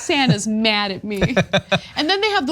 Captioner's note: laugh